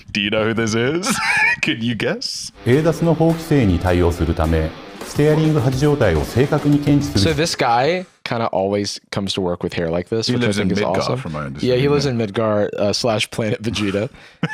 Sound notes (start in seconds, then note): 2.6 speaking Japanese